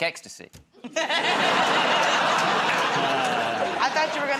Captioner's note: laughter